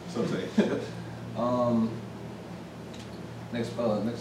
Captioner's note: laughs